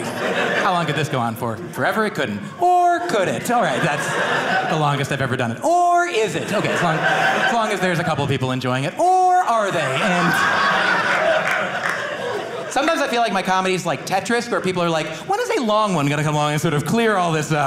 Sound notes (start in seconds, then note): 10.6 audience laughing